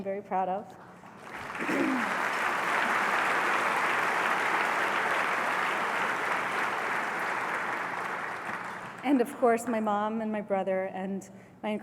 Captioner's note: applause